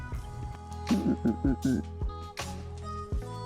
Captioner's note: grunting